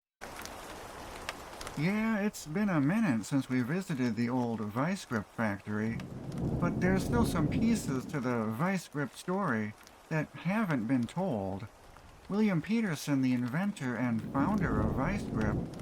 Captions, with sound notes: [ rain ] Yeah, it's been a minute since we visited the old Vise-Grip factory, but, there's still some pieces to the Vise-Grip story, that haven't been told. William Petersen, the inventor and founder of Vise-Grip,